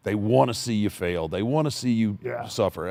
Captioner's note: none